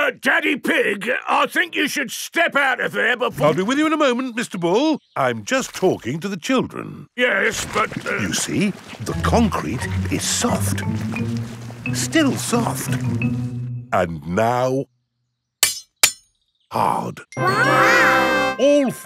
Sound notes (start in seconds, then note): 8.2 stutters; 15.6 shovel clanks